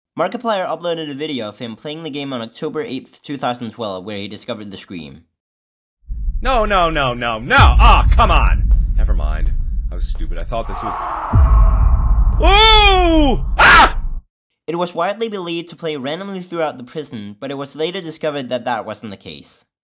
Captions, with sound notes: Markiplier uploaded a video of him playing the map on October 8th 2012, where he discovered the scream. No, no, no, no, no! Aw, come on. Never mind. I was stupid, I thought there was- [male screaming] Ohhh... [Markiplier screaming] It was widely believed to play randomly throughout the prison, but it was later discovered that that wasn't the case.